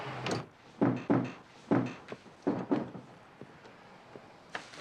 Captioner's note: knocking on door